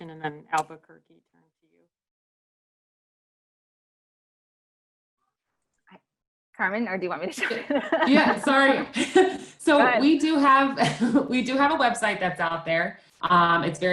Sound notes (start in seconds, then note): 7.4 laughs; 10.7 giggles